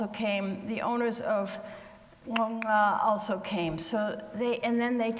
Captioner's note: clicking twice